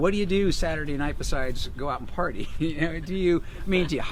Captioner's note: laughs